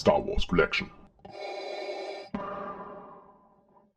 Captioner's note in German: Darth Vader Atemgeräusche